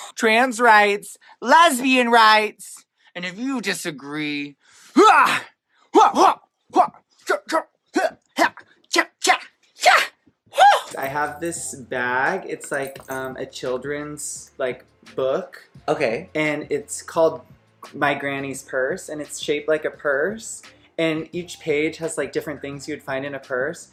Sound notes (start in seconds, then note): 5.0 Crystal makes noises that wouldn't be out of place in a fighting game; 15.8 rock